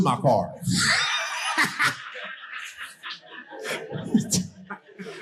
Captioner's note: audience laughing